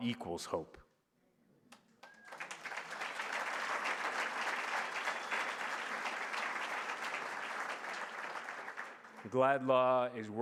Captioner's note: applause